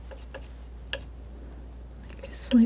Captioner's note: tapping